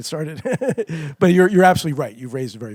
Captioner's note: laughs